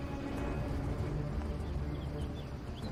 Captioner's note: birds chirping